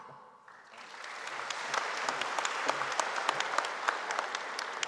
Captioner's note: audience applauding